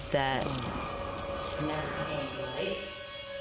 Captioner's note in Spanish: timbre agudo